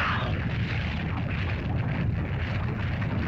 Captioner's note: lizard yelps; fire crackles; lava bubbles & flows